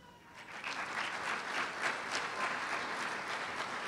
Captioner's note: applause